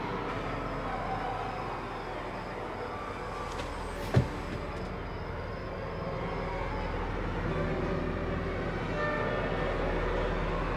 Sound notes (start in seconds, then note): 3.3 car door closing; 7.2 soft suspenseful music